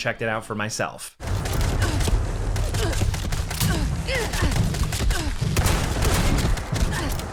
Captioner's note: gunshots popping; PC grunting